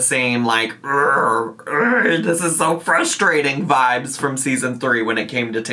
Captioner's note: growling